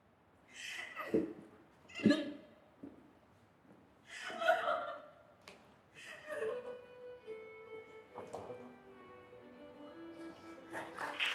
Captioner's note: applause